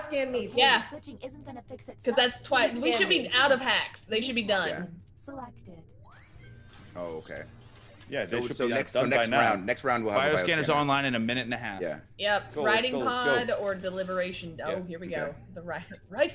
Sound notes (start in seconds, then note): none